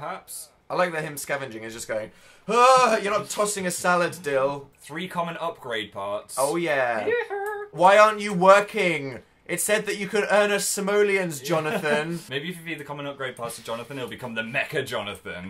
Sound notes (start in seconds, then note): 11.6 laughs